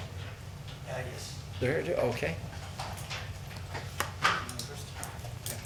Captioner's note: man speaking off mic